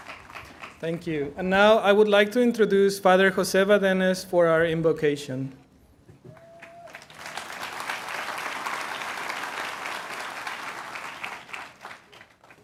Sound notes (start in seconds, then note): 0.9 aplausps